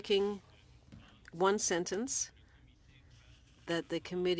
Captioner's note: speaking french